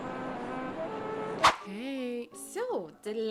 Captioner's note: woosh